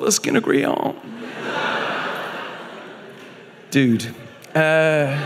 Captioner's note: audience laughing